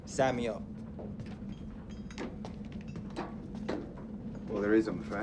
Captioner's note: chains clinking